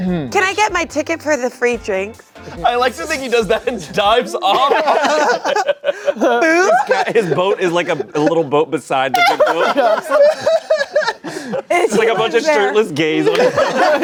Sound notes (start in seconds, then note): 9.1 everyone laughing